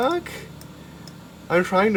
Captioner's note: more confused mouse clicks